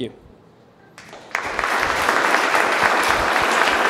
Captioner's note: applauding